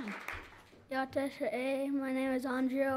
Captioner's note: speaking in foreign language